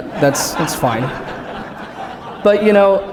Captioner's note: laughter